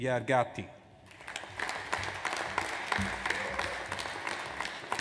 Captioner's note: audience applauds